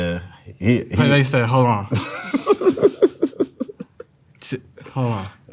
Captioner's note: laughs